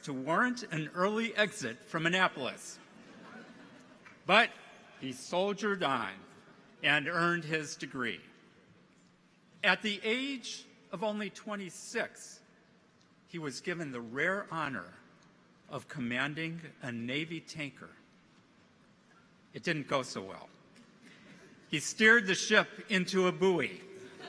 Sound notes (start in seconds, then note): 2.9 audience chuckles